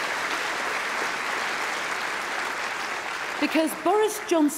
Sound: applause

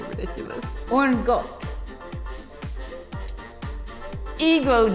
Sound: speaking in a foreign language

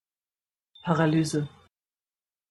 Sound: fast Pronunciation

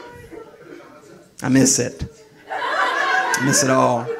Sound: audience laughing; audience laughing

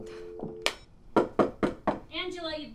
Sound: knocking on door

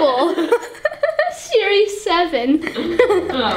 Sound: laughs

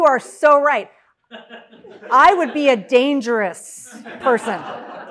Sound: laugh

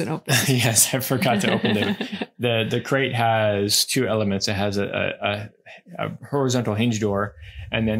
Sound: laughs

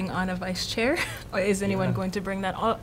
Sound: laughter

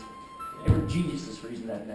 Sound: ringing cell phone

